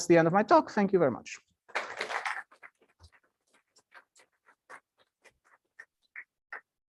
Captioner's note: applause